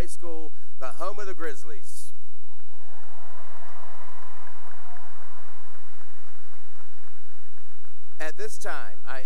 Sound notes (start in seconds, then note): 2.6 cheering and applause